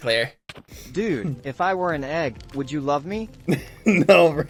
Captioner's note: text-to-speech; laughing